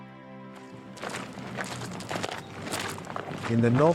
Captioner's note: soldiers marching